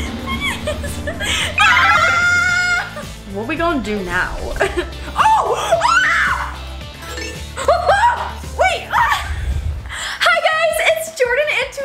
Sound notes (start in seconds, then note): 0.0 laughs; 1.7 yells